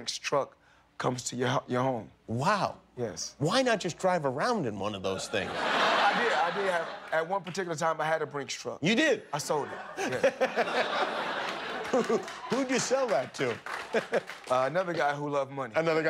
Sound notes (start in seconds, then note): 9.5 laughter